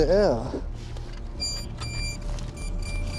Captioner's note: beeps